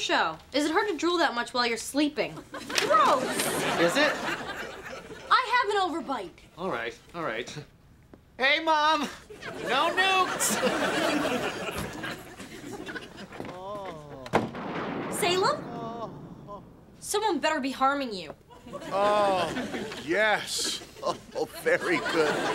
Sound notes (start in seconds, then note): 13.5 Salem groaning; 15.6 groaning